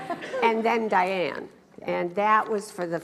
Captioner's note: laughs